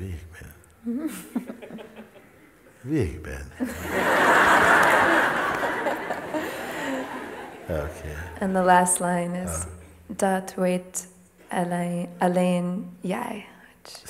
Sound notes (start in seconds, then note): 3.6 laughter